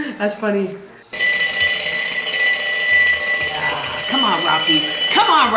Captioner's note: alarm ringing